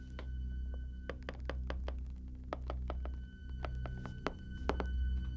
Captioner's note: soft tapping